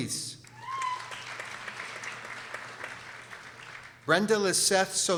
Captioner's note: people applauding